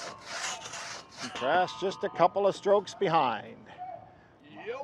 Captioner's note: saw blades screeching